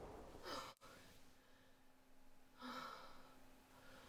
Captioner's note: Vanessa sighs